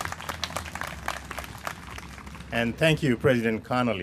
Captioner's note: applause